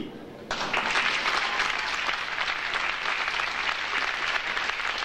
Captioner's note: audience applauding